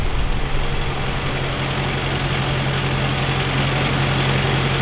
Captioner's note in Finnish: moottorin ääni lähestyy